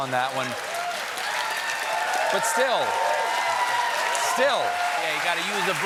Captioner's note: cheers and applause